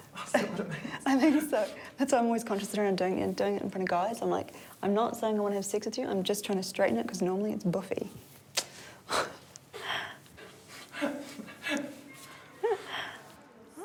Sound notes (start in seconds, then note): 0.2 chuckles; 8.5 tuts, chuckles; 8.5 woman chuckles